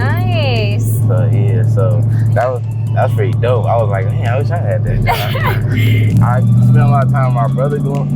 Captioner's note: laughs